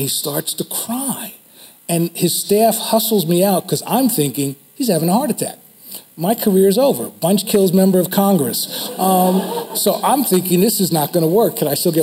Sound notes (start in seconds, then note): 8.6 audience laughs